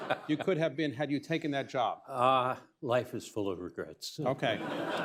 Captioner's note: laughter; laughs; laughter